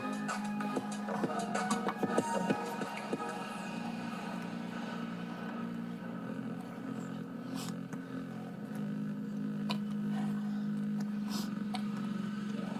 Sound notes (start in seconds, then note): 0.0 energetic music; 8.0 softly breathing